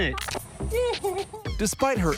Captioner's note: laughs